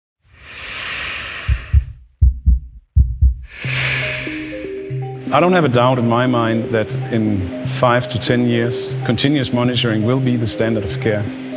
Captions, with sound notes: (person breathing deeply) (heartbeat racing) - I don't have a doubt in my mind that in five to 10 years, continuous monitoring will be the standard of care,